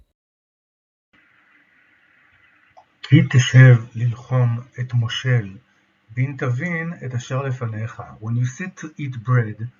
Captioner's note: Hebrew